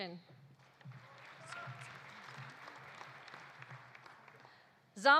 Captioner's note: audience applauding